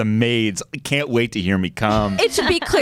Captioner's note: laughter